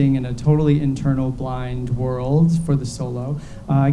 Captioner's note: none